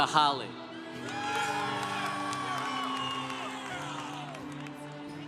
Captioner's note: congregation cheering